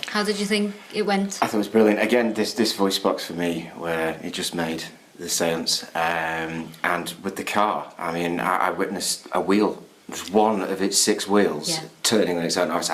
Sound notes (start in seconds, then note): none